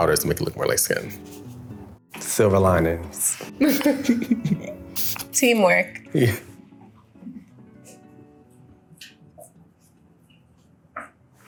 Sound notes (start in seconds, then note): 3.6 Jordyn laughs; 3.6 laughs